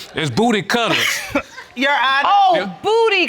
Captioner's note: chuckles